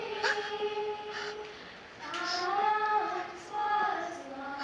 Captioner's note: sobbing